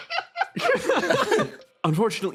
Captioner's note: laughs